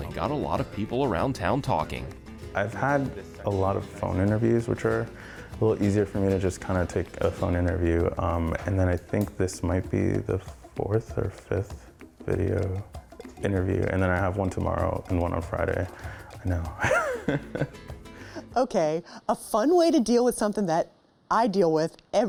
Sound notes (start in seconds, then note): 16.7 laughs